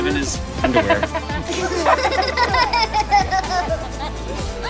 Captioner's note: laughing